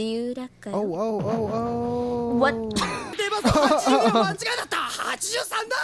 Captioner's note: laughing